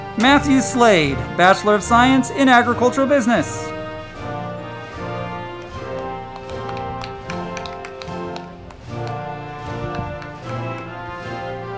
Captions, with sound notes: Matthew Slade, Bachelor of Science in Agriculture Business. (band music) (crowd clapping)